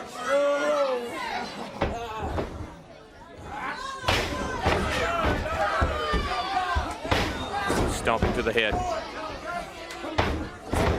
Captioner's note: crowd chatter